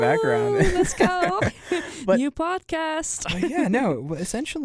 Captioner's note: laughs